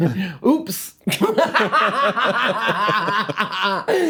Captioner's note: both laughing